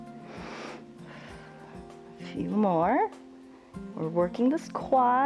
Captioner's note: inhales and exhales